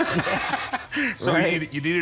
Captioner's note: imitates guitar